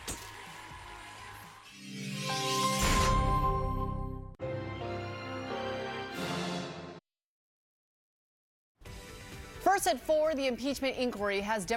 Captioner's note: cheers and applause